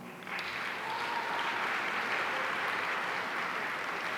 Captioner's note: audience applauding